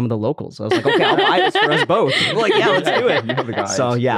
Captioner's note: laugh